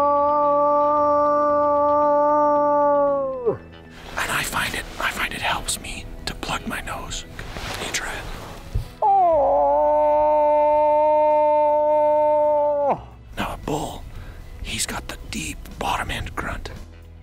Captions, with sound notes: [eEERRugh] I find it helps me to plug my nose You try it. [eEERRugh] Now a bull, he's got the deep bottom end grunt.